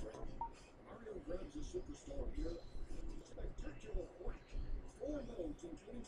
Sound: electronic voice in background

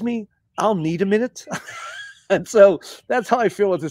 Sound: laughter

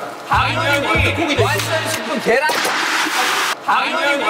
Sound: clap clap

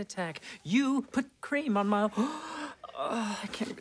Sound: gasping

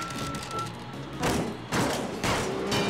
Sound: banging

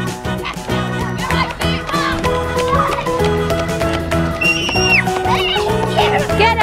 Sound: upbeat music; kids screaming

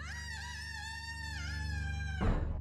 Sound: screams

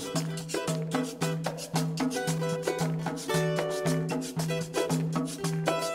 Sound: audience claps; upbeat music continues

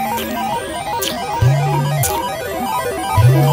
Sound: licking

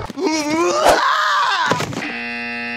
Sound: screams; buzzer buzzes

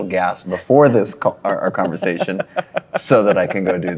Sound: laughs

